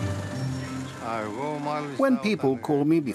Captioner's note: speaking in foreign language